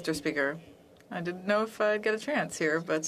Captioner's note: speaking French